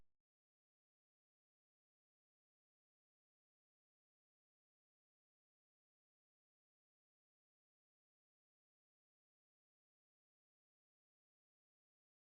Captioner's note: silence